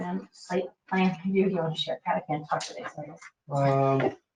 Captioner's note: speaking faintly